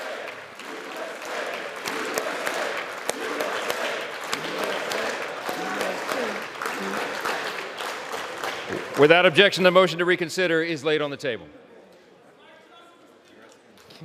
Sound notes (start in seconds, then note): 3.3 crowd chanting "u.s.a."